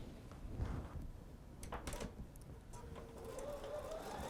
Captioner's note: sewing Machine